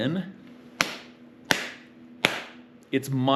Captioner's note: clapping